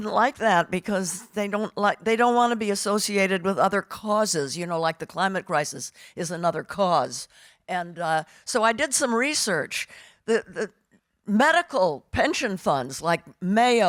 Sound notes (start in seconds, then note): none